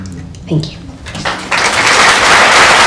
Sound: applause

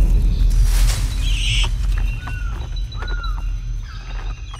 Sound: gecko screeches

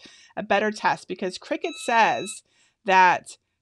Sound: EasyPress beeping

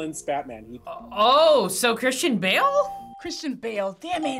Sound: bell rings

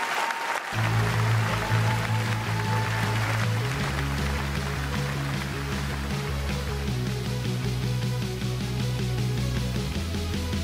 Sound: applause

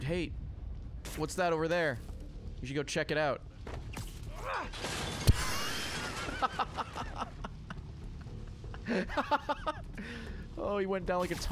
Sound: laughs

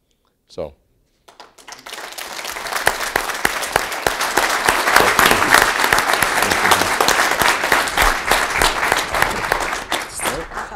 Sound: applause

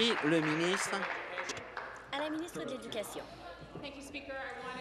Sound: applause

